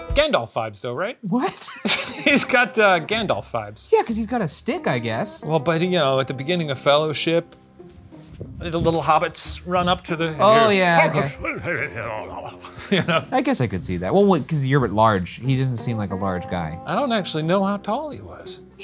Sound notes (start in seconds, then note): 1.6 laughing; 11.0 laughing; 11.4 mimicking hobbits